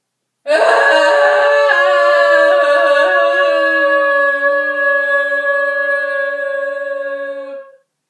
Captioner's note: louder screaming